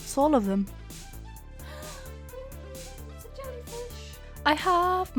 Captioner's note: gasps